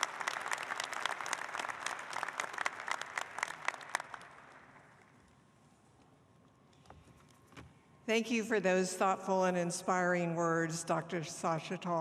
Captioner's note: applause